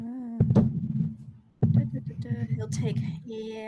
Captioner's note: microphone interference